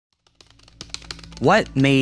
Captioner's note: keyboard keys clacking